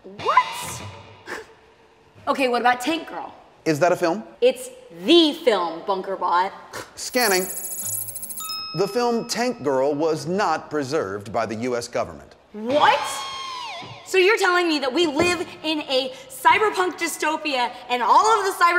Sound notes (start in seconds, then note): 7.1 computer whirring; 7.1 ding